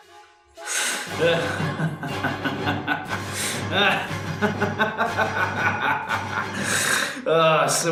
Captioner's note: soft then more maniacal laughter